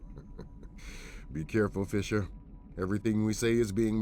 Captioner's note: chuckles